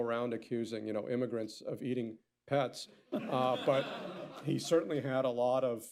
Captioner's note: laughter